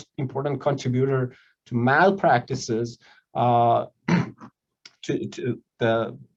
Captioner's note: clears throat